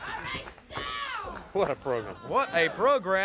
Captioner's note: crowd chatter